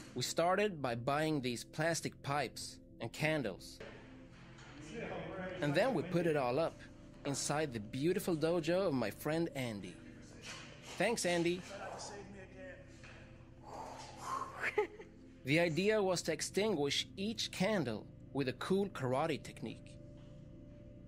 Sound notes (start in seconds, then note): 13.7 blows air